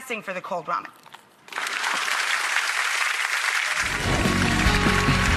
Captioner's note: audience claps; upbeat, piano music